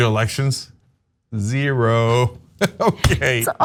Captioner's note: laugh